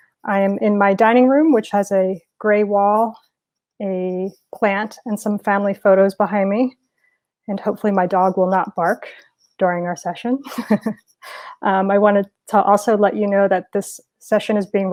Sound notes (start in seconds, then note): 10.4 laughing